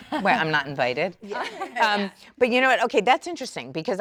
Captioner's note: women laugh